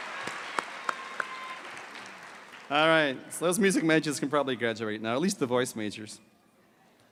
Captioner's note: cheers and applause